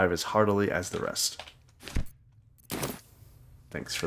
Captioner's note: silence